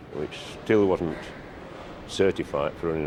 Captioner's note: train passes